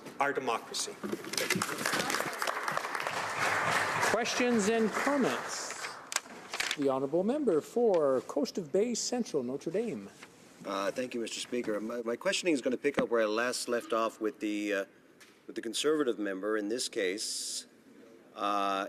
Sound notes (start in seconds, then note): 6.6 applause